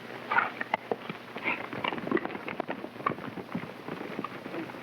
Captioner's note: hooves clopping